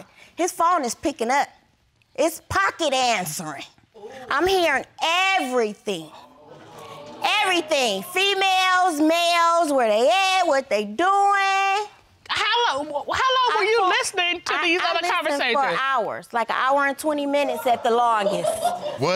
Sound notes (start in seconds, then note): 6.2 audience gasps; 17.6 woman laughs